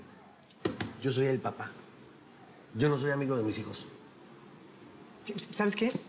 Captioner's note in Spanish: Palmadas